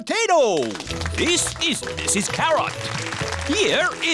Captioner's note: applause